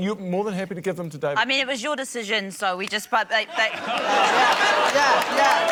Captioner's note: stammers